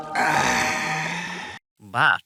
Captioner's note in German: Seufz